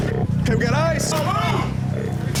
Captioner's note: glass shatters